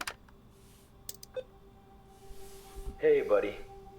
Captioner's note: laptop beeping